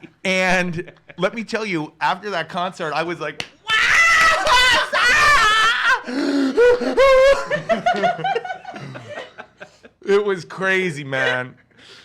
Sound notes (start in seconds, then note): 0.0 laughs; 3.3 clapping hands; 5.9 gasping loudly; 8.1 laugh